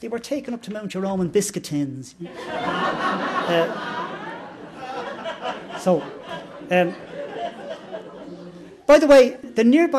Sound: laughter

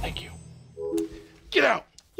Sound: computer chimes

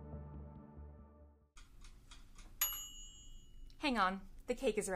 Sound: timer and chime

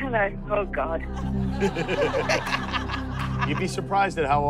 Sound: laughter

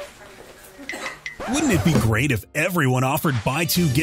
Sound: record scratch

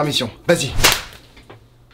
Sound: slap

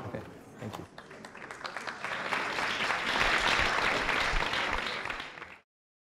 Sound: applause

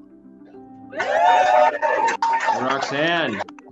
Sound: cheering

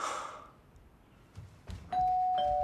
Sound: sighs; doorbell ringing

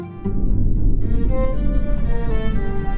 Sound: volcano erupts

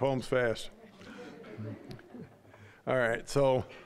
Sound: audience laughing

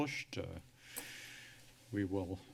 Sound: sigh

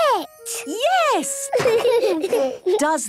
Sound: laughter

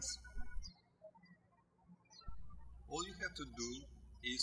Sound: birds chirping

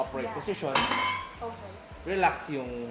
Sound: clang

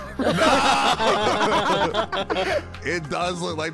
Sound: all laughing

